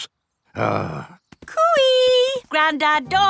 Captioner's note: grumbles